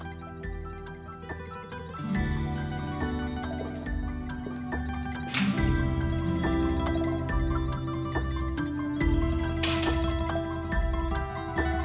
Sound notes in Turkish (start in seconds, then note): 0.2 Duygusal müzik; 5.2 Kapı açıldı; 6.4 Duygusal müzik